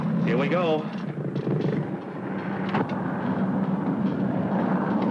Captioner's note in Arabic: هدير محرك الطائرة